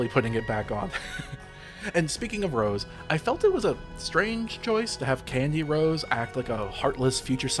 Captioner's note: haha